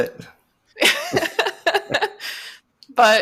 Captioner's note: laughter